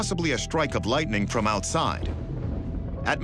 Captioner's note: thunder rumbles